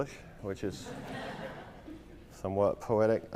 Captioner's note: laughter